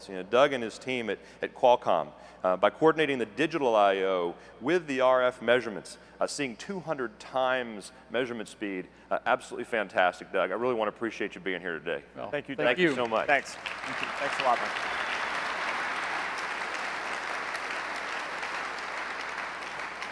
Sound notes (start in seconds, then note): 13.7 applause